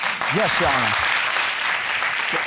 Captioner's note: applause